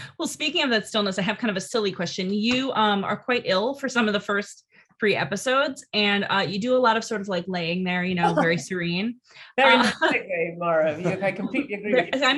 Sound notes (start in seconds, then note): 8.2 Rosamund laughing; 10.8 laughing